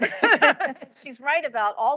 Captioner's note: panelists laughs